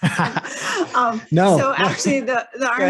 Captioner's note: laughs